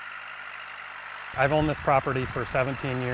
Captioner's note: tractor rumbles